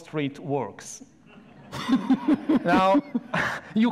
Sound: audience laughs

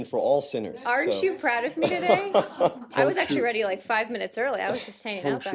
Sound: laughter

